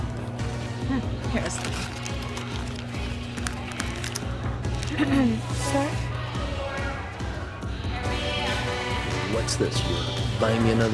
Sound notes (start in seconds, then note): 3.4 clears throat; 5.8 techno music